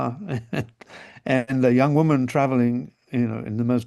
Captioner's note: chuckles